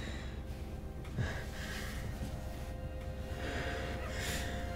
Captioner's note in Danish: Fodtrinene fortoner sig